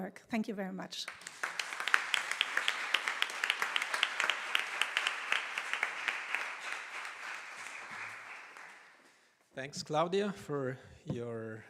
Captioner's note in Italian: Applauso